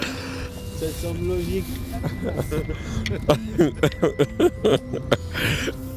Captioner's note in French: rires